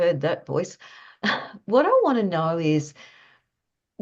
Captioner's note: laughs